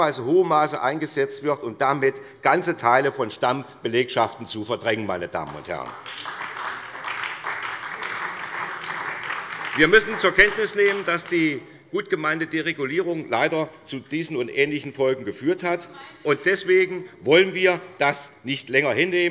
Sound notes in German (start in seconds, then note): 5.4 Beifall bei der SPD